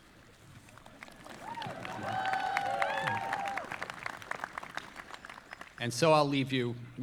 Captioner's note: audience applauding; audience cheering